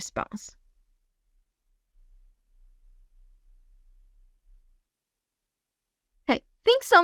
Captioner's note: silence